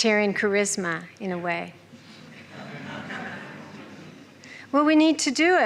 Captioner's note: murmuring, chuckling